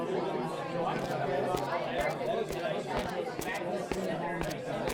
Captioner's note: crowd Chatter